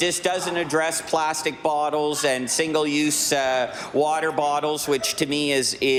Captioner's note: laughter